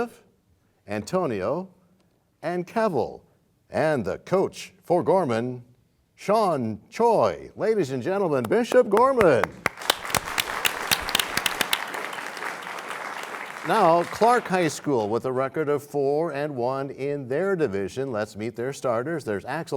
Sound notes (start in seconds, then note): 9.4 cheers and applause